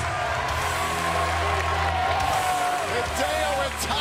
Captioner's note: cheers and applause